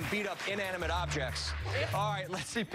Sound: cheers and applause

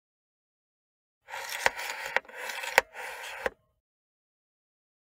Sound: sound of cassette

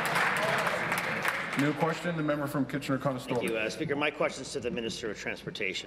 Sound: applause

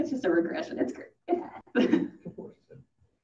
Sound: laughs

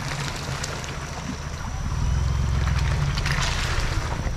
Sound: water splashing

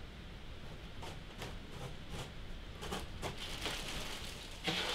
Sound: plastic crackling

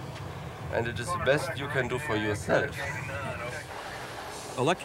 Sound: chuckles

